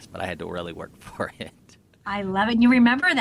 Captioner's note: laughs